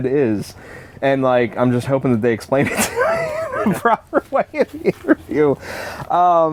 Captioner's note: laughs